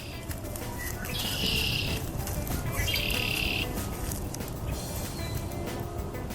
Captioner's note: red-winged Blackbird calls